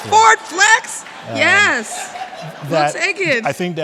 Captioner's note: audience laughing